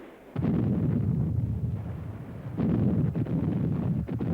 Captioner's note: explosives boom